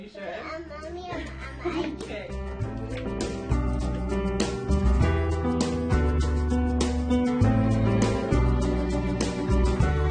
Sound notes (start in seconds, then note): 0.4 children talking; 7.2 calming beat